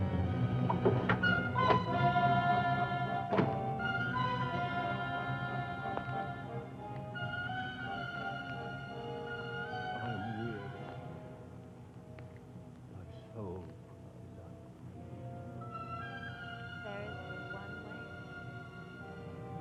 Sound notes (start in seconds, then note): 1.3 moves to suspenseful music; 3.3 door thuds; 10.1 Victor speaking faintly